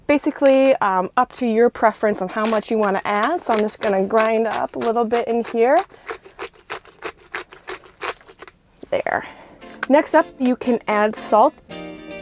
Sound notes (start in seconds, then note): 6.3 pepper grinding